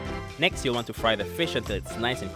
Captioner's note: voiceover